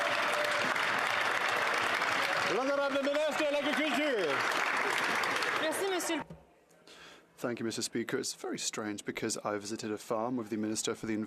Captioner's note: some Applause